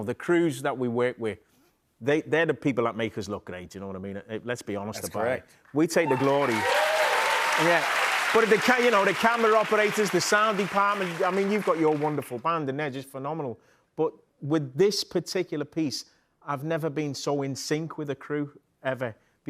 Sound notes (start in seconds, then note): 5.9 cheers and applause